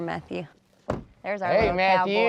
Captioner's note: car door closes